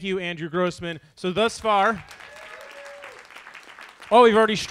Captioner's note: audience applauds